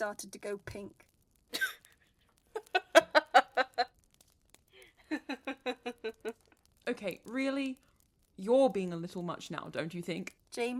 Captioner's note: James laughs